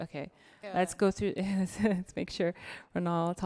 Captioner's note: chuckles